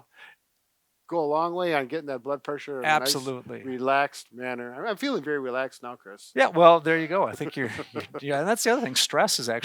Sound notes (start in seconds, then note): 7.3 laugh